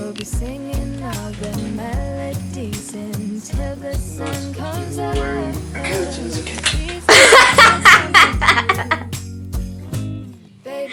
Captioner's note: clapping hands